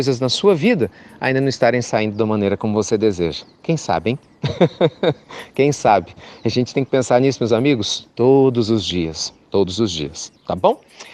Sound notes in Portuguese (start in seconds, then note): 4.4 Risos